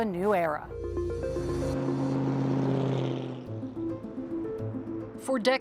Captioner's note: engines humming; intense music